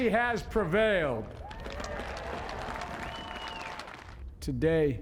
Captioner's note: applause